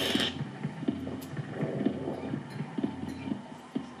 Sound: static crackles

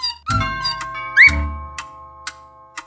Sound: doorbell ringing

